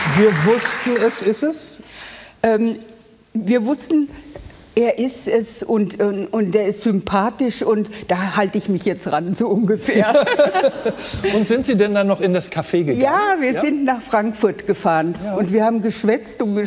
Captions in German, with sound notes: "Wir wussten, das ist es." Wir wussten, er ist es, und er ist sympathisch. Und da halte ich mich jetzt ran, so ungefähr. (Lachen) Sind Sie noch in das Café gegangen? Ja, wir sind nach Frankfurt gefahren.